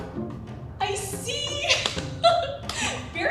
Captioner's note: laughs